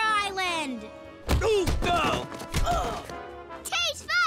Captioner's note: grunting